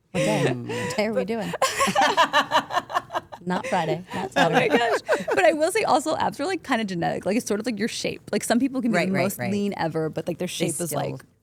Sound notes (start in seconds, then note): 1.5 all laughing